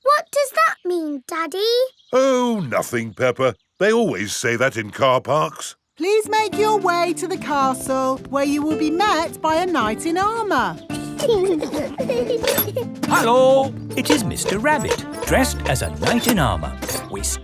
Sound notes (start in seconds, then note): 10.9 children giggling